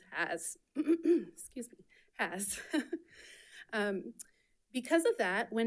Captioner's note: clears throat; chuckles